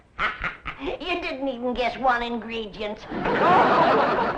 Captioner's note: chuckles